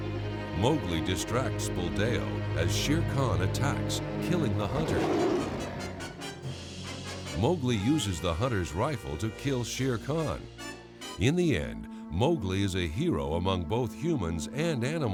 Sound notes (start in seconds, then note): 4.6 growling